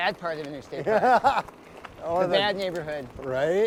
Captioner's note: laughs